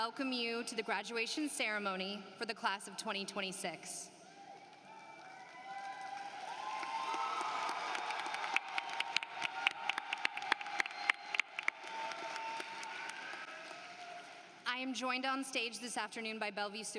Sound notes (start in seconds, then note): 4.6 applause